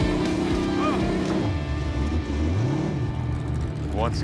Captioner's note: engine slowing, idling